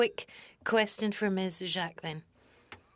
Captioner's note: speaking French